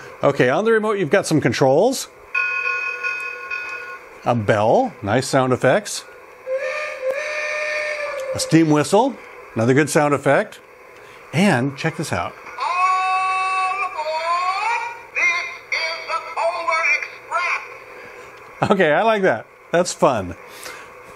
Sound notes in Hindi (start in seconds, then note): 2.4 घंटी clangs; 6.4 भाप सीटी उड़ती है